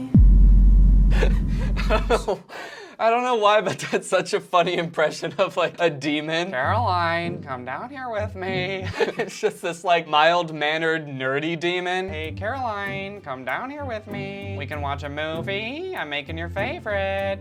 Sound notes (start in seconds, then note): 0.0 dramatic sound effect; 1.1 laughter